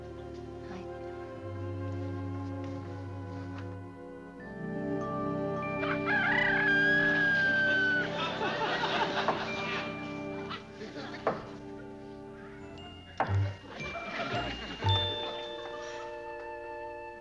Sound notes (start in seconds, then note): 5.8 rooster crowing